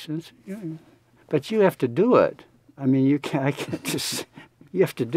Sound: laughs

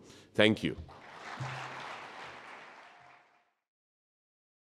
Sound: audience applauding

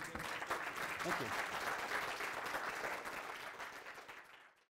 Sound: drowned out by applause

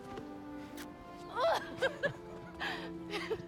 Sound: laughs

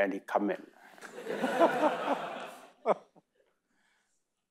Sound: audience laughing

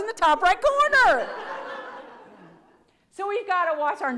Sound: audience laughs

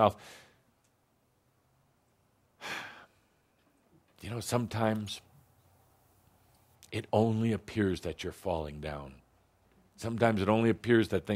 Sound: sighs

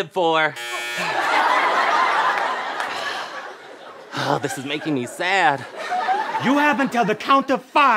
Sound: buzzing

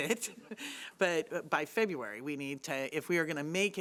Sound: laughing

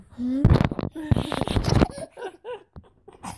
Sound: laughter

